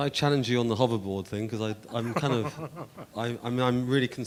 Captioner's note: laughing